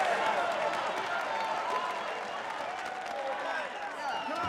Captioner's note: crowd cheering